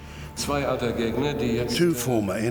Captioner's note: speaking German